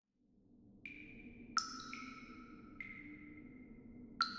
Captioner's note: sounds of water dripping onto the floor